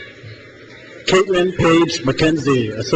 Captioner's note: crowd cheers